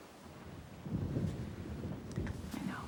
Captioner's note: thunder rumbling